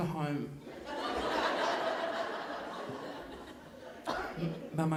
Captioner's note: audience laughing